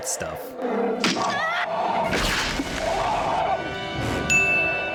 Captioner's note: animal roaring; human screaming and crashing; bell pleasant dinging